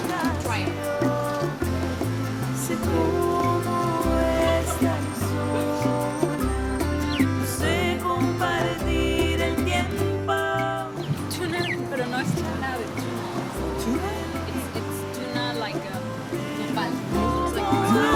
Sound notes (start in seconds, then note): 4.7 laughs; 11.9 speaks spanish